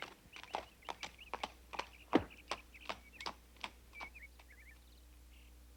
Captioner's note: horse hooves clomping